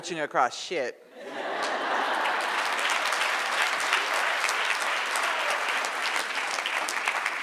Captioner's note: audience laughs; audience applauds